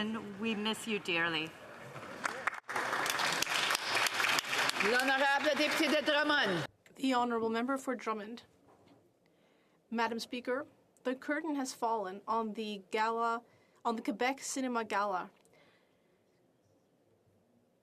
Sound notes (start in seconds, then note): 5.7 some Applause